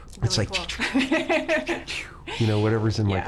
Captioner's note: laughing; laser beam zapping